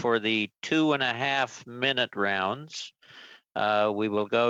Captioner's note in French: voix de l'interprète